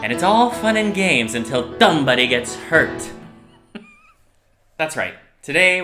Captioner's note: ha ha ha